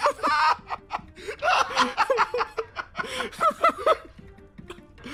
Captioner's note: laugh; laughs